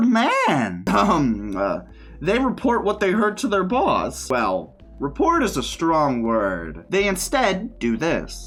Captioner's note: ahem